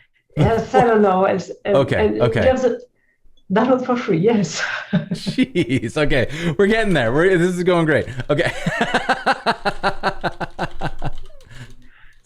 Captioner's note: laughter